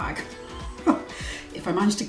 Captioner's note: laughs